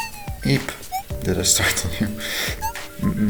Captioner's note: chuckling